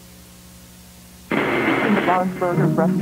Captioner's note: static crackles